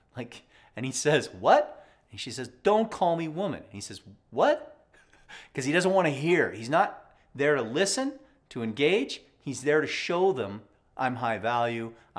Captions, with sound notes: Like, and he says, what? And she says, "don't call me woman." And he says, what? (laughs) 'cuz he doesn't want to hear, he's not there to listen, to engage, he's there to show them, I'm high value,